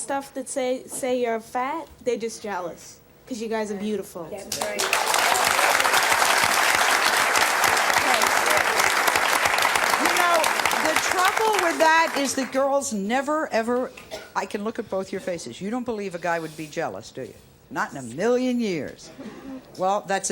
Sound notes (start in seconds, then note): 4.5 applause